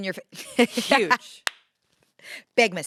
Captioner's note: laughs